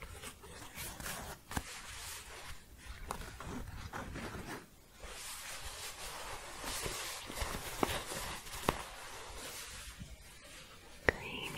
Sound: scratching and shuffling

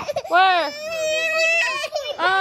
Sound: cries

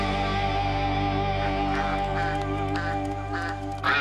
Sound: duck quacking

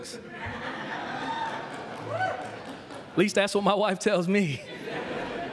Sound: laughter

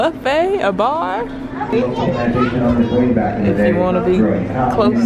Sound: man talking over loud speaker

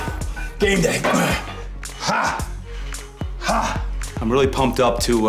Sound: grunts

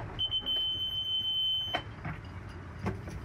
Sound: beeping

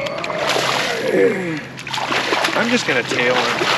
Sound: fish splashing

